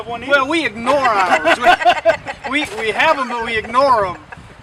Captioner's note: everyone laughing